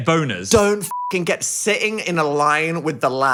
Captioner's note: beep